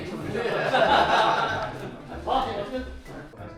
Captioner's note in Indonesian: tertawa